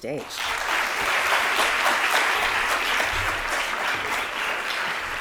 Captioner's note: applause